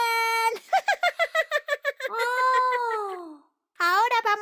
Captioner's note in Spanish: Risas